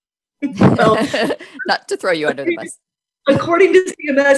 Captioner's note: laughs